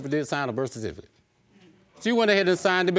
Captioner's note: audience murmuring